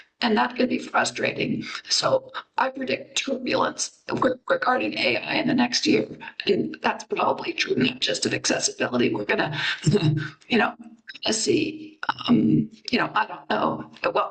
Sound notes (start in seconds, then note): 10.2 chuckles